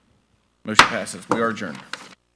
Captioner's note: gavel banging